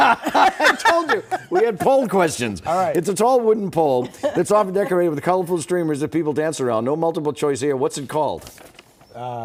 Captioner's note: laughter